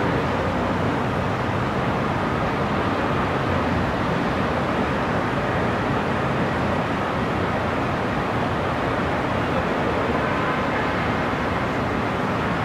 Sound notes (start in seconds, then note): 0.0 sound of distant cars and city noises